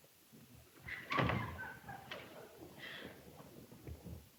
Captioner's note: Mary laughing